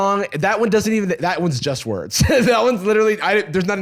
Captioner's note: laughs